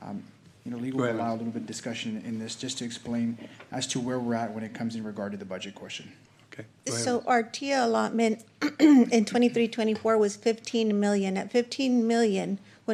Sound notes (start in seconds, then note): 9.1 clears throat